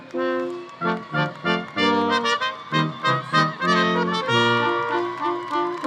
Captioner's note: audience applause continues; audience cheering continues